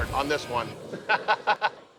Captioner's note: laughs